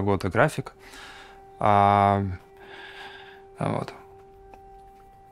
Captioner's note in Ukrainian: Звучить повітряна тривога